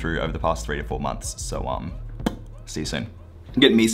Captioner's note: pop